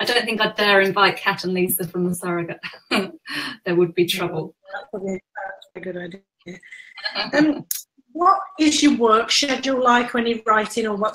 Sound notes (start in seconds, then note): 0.0 laughs; 6.9 laughs